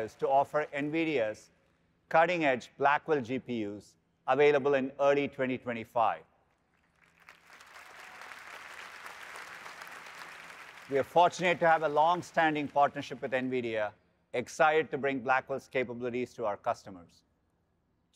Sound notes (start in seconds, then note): 6.7 applause